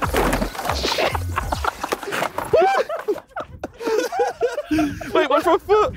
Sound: people laughing

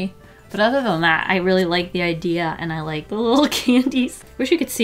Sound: laughs

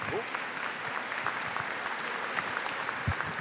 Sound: applause

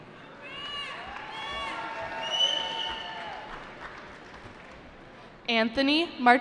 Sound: cheering

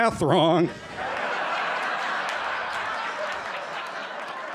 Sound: laughter

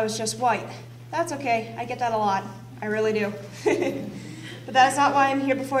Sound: laughs

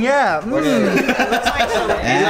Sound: laughing

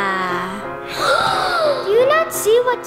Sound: gasping

